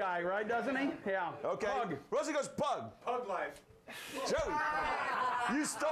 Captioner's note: laughter